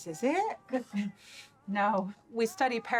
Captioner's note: laughing